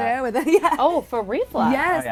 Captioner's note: laughing